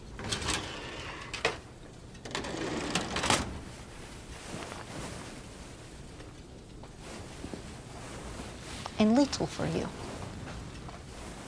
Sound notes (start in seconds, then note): 1.0 metal clanking